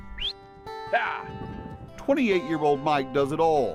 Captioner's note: whistle